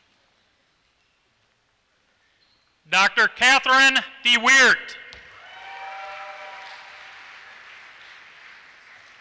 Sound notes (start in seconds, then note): 5.3 applause